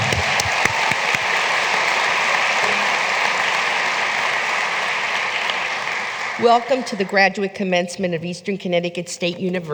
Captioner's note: applause